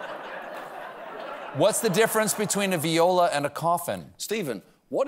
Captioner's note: laughter